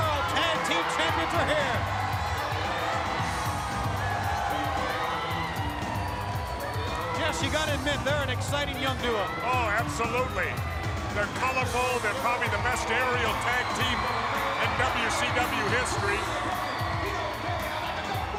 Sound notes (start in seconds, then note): 4.6 crowd chatter